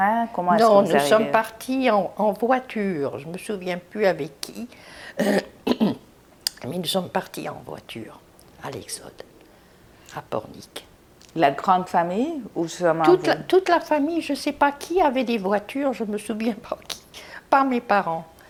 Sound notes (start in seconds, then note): 5.2 clears throat